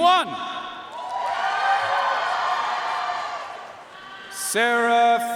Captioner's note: audience cheering and applauding